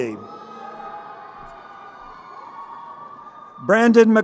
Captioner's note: crowd cheering